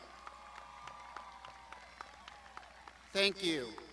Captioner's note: crowd shouting